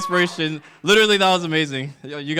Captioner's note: applause